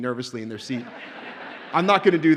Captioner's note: audience laughs